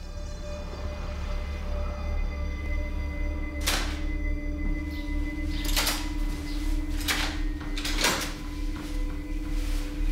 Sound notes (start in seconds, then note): 0.2 eerie music playing; 3.7 door opens